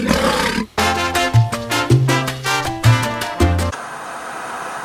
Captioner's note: lion roars; TV static